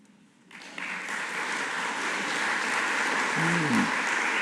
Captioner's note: audience applauding